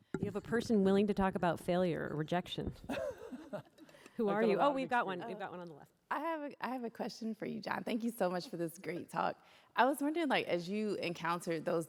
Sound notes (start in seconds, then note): 2.8 laughter